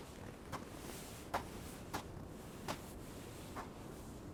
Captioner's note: footsteps thudding